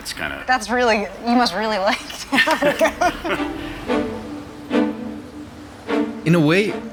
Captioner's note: laughs